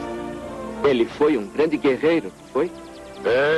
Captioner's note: none